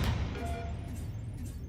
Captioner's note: computer beeping